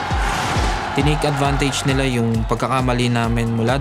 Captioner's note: crowd cheering, applauding; in Tagalog